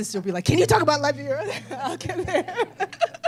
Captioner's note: laughter